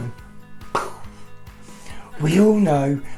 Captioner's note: simulates gun shot pop